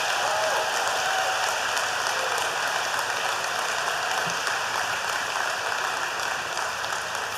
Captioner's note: applause